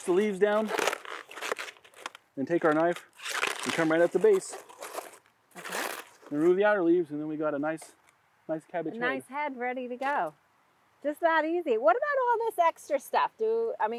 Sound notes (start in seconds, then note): 0.0 cabbage rustling; 0.0 cabbage crunching